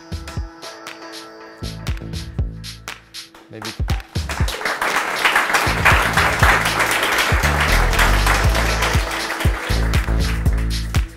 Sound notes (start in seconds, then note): 0.1 upbeat music; 3.4 audience applauds; 8.5 upbeat music